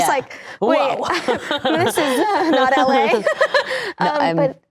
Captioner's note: laughing